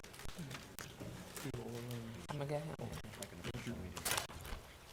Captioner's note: board chatting quietly